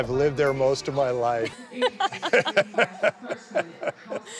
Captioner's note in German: Lachen